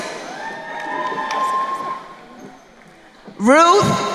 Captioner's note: crowd cheering